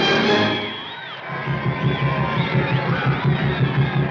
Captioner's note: crowd whistling and cheering